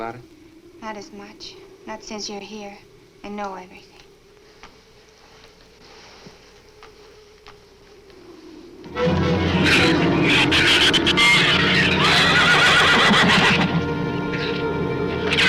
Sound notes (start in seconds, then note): 8.8 dark orchestral music; 8.9 shrew chatter; 12.0 horse neighs